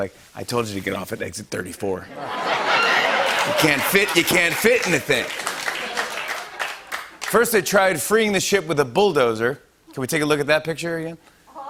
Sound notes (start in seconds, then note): 2.2 laughter and applause